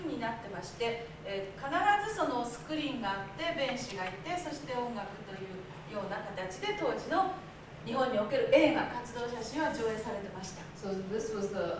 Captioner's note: speaking Japanes